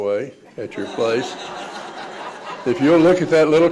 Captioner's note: audience laughs